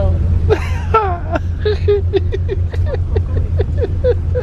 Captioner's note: both laugh